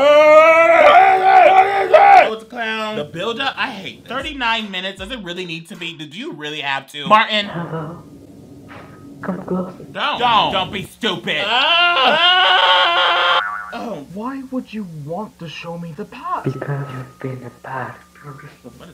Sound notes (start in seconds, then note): 0.0 wails; 11.4 screams; 13.4 spring boings